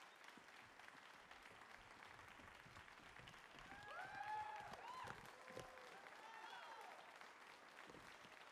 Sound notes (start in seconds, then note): 3.6 audience cheering